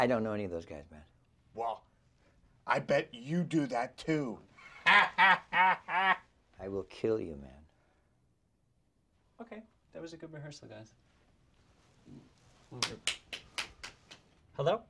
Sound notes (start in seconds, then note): 4.6 laughs; 12.7 clapping